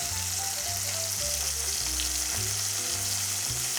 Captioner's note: sizzling sound